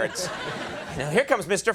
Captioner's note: audience laughs